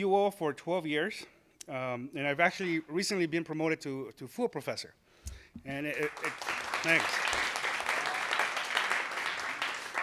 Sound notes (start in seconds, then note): 5.8 applause